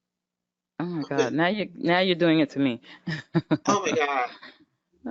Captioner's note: chuckles